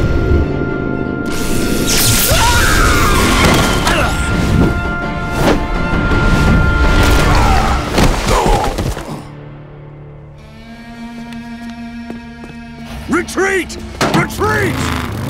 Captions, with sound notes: [screaming] [groaning] Retreat! Retreat!